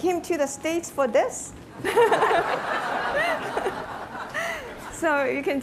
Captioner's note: laughter